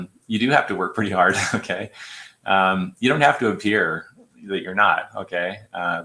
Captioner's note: laughter